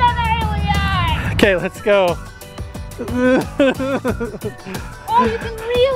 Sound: laughs

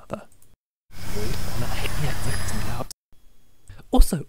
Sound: Life is Strange rewinding sound

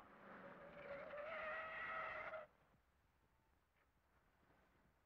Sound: tires screeching

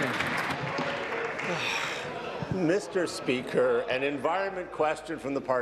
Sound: applause

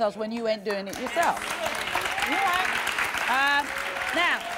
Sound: applause

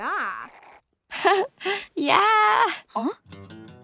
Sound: laughing

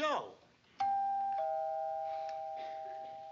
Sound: doorbell rings

